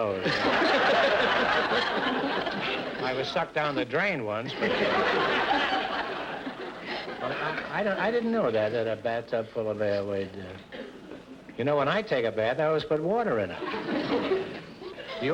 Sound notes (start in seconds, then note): 0.0 audience laughter; 13.5 audience chuckles